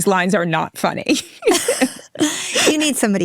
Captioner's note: people laughing